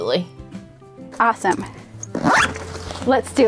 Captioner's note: zipper sound